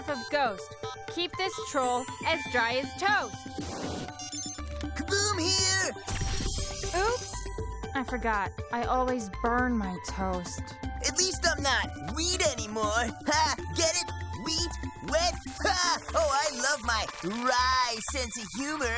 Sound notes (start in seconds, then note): 4.1 beeps